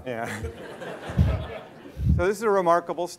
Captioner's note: laughter